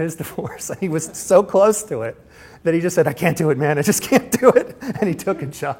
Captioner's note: laughs